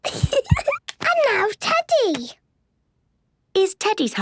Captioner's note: giggles